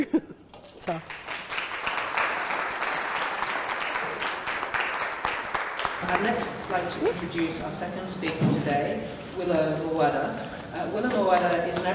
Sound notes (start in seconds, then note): 2.6 applause